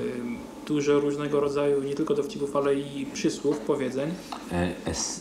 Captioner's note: speaking Polish